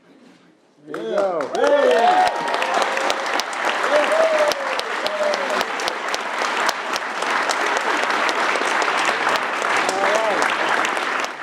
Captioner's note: applause